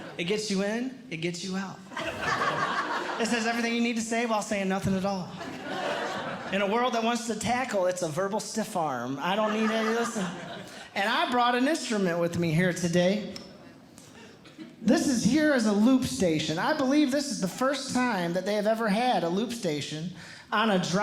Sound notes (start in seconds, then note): 1.9 audience Laughing; 5.4 audience Laughing